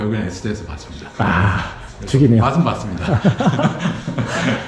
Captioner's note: laughs